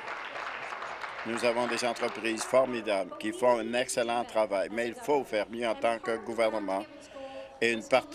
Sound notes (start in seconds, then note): 2.5 applause